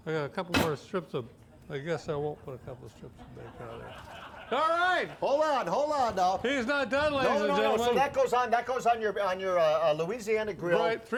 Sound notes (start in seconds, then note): 0.5 pot lid clangs; 3.2 audience laugh